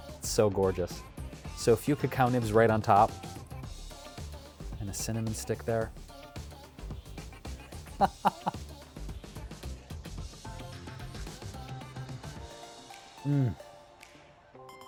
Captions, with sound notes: It's so gorgeous! So a few cacao nibs right on top and the cinnamon stick there Hmm (Laughing) Mmmm.